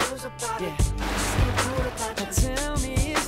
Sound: water splashing

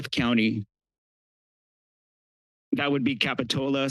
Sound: pause

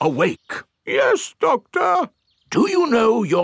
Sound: in teddy's voice; in normal voice

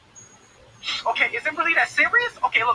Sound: sniffle

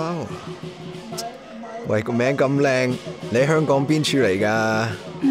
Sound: in Cantonese

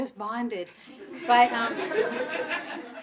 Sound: audience laughing

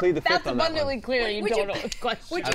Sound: laughs

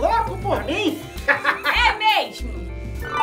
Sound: laughs

